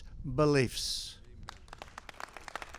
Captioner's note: applause